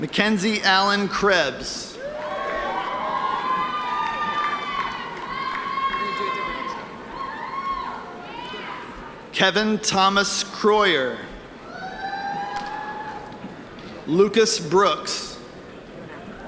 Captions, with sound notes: McKenzie Allen Krebs. (audience cheering) Kevin Thomas Kroyer. Lucas Brooks.